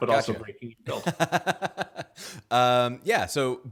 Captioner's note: laughs